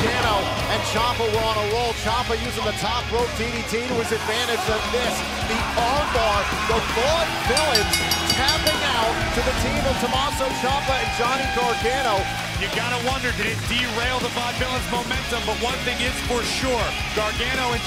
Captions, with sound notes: >> GARGANO AND CIAMPA WERE ON A ROLL. CIAMPA USING THE TOP ROPE DDT TO HIS ADVANTAGE. THE ARM BAR. [BELL RINGING] THE VAUDEVILLIANS TAPPING OUT TO THE TEAM OF TOMMASO CIAMPA AND JOHNNY GARGANO. >> YOU'VE GOT TO WONDER, DID IT DERAIL THE VAUDEVILLIANS' MOMENTUM?